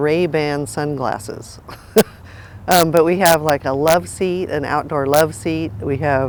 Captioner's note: chuckles